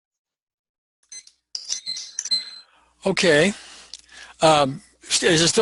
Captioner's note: stopwatch beeps